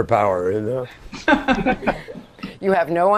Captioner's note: laughter